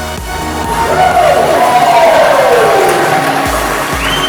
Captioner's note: people cheering